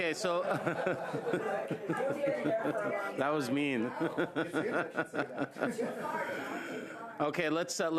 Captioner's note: laughter